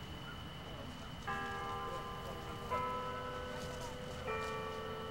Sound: bell dinging

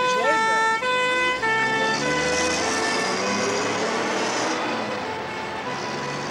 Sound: ambulance siren

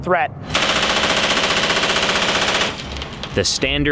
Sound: machine gun firing

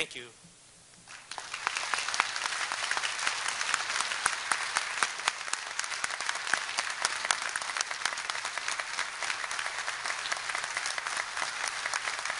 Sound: applause

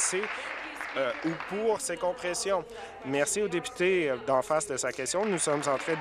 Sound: applause

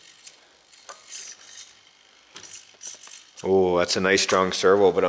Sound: wheels turning

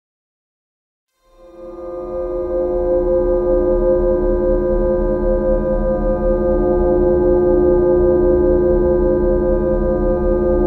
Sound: sound of low terror

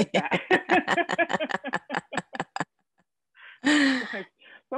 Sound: both laughing

